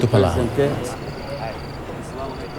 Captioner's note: speaking foreign language